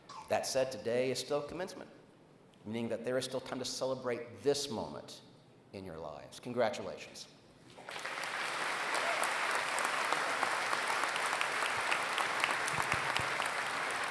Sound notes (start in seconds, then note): 7.7 applause